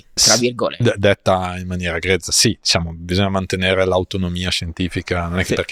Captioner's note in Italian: sbuffare